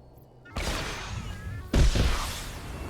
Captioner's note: gun firing